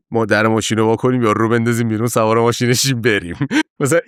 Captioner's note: laughs